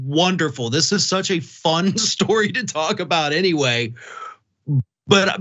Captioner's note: laugh